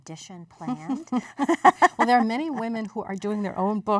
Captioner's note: laughter